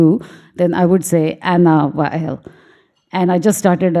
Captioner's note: speaking foreign language